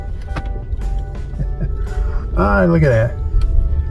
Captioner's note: giggles